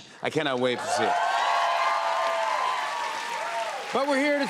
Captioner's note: cheers and applause